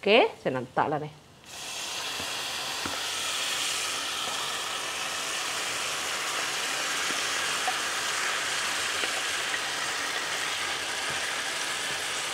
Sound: sizzling sound of marinated meat meets hot oil

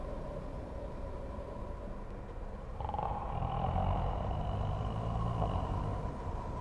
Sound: snoring sound

